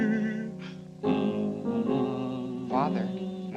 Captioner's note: humming